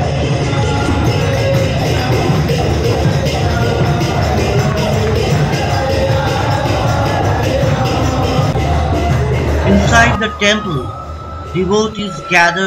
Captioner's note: voiceover